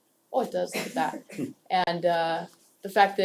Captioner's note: laugh